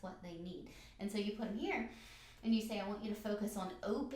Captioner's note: breathes in